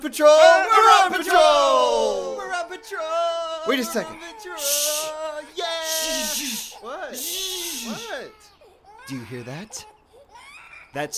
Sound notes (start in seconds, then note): 2.9 sounds of crying infant